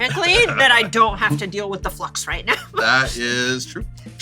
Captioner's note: laughs